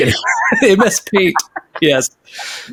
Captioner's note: laughs